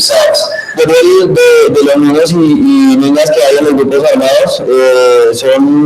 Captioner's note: speaking foreign language